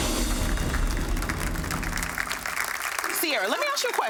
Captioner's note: audience applauding